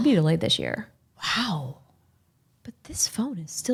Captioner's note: gasps